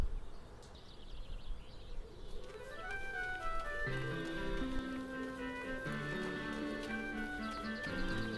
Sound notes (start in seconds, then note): 0.0 birds chirping